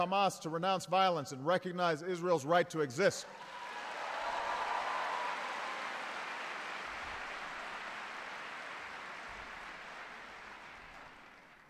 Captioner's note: applause